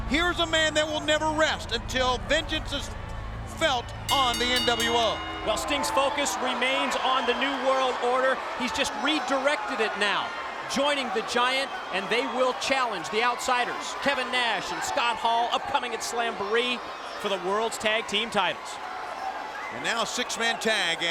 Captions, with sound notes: Here's a man that will never rest until vengeance is felt on the nWo. (bell rings) While Sting's focus remains on the New World Order, he's just redirected it, now. Joining the Giant, and they will challenge the outsiders. Kevin Nash and Scott Hall, upcoming at Slamboree for the world's tag team titles. And now six-man-tag.